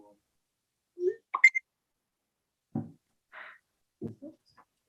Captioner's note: computer pings